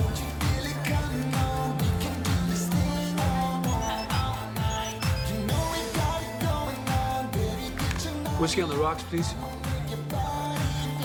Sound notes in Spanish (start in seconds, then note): 6.5 Suena el celular